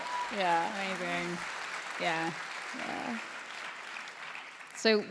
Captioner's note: applause